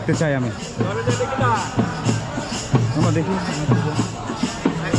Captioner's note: chanting